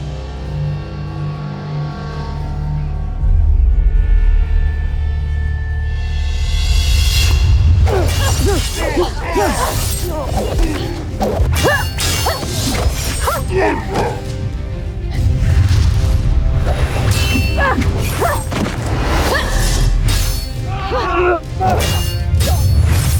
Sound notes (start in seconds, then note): 0.1 ominous music playing; 7.2 swishing, clanging, thudding; 7.8 grunting, growling, groaning